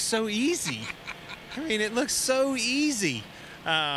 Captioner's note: laughter